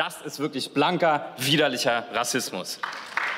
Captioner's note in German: Beifall